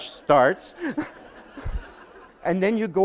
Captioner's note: laughter